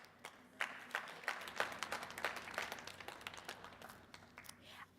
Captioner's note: audience applauding